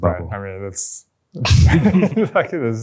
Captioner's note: laughter